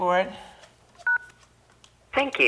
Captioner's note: beep